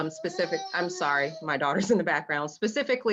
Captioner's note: baby crying